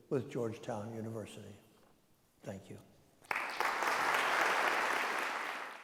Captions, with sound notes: with Georgetown University. Thank you. (audience applauding)